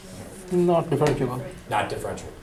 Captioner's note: voiceover